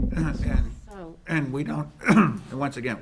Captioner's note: clears throat